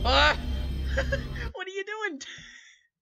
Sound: laughs

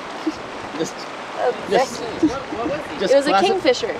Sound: laughs

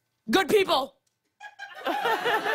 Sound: laughter

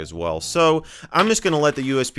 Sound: USB clatters on desktop

